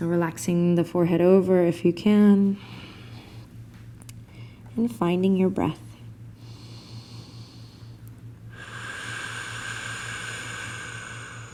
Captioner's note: breathing